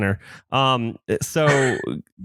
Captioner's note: laughs